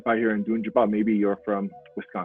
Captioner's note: speaks foreign language